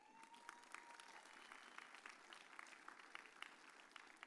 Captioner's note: audience cheers